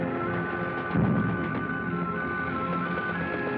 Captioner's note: machine Gun Fire